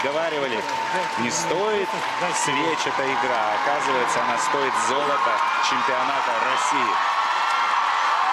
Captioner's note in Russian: ликование